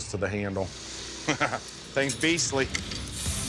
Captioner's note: laughs